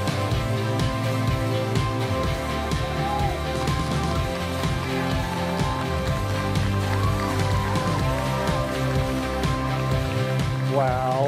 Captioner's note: applause